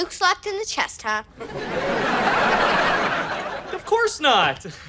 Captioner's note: audience laughter